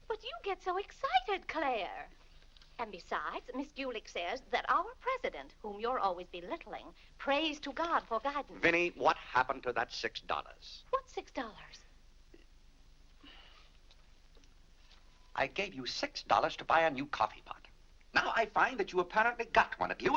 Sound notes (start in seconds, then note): 13.2 sighs